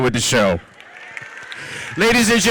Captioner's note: audience cheers